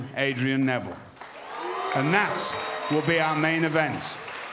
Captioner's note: cheers & applause